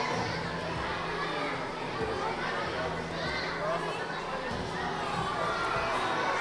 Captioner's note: audience chattering continues